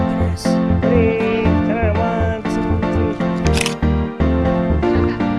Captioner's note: camera clicks